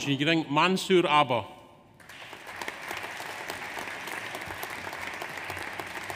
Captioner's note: audience applauds